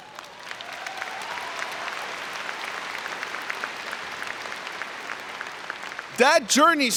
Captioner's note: cheering and Applause